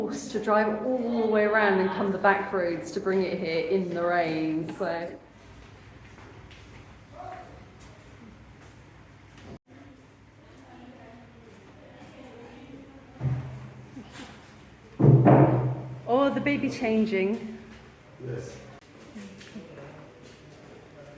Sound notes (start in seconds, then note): 15.0 clunk